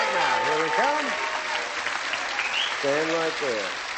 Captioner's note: applause